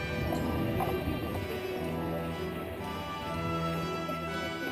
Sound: creature growling

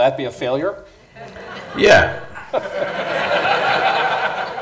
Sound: laughter

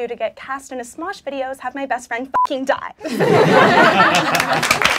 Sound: beeping; clapping

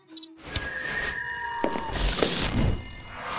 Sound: fire Alarm,Walking Sound

